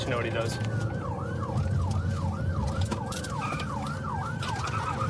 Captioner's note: siren wailing